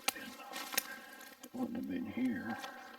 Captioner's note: twigs snapping